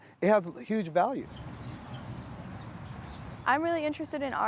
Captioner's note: birds chirping